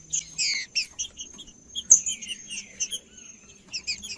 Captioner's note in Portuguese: trinca ferro cantando